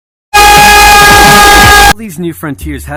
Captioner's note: intensified screaming